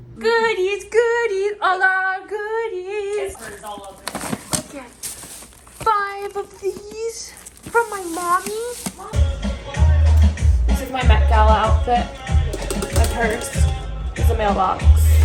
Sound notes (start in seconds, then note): 3.2 goodies clattering; 9.1 upbeat music